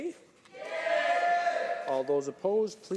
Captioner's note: yelling responses